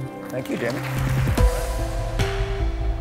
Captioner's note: audience clapping